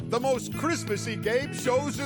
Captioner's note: none